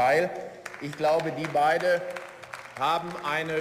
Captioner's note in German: Beifall